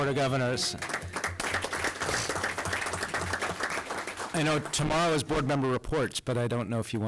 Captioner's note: applause